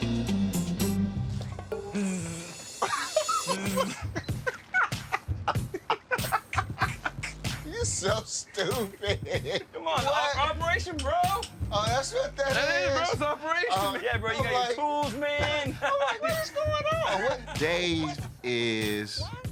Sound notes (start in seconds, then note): 1.7 buzzes; 2.8 laughs; 5.6 both laugh; 8.1 laughing